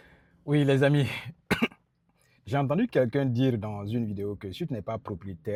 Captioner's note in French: raclement de gorge